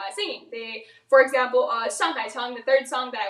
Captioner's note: speaks in foreign language